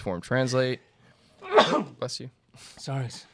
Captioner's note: sneezes